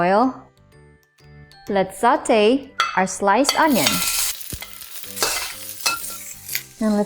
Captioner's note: oil sizzling